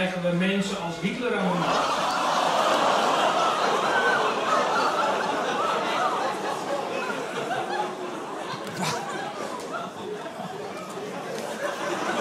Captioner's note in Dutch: Gelach